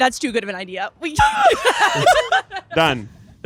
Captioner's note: everyone laughing